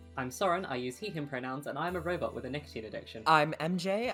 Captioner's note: none